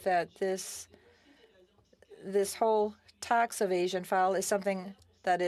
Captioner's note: speaking French